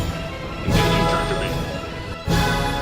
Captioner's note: explosions; chatter